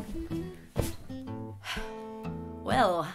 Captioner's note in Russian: вздох